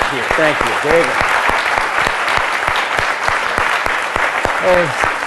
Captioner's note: applause